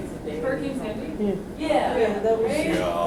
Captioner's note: voiceover